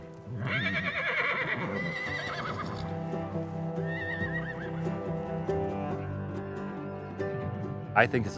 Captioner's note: horses neighing